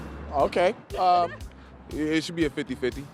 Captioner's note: laughter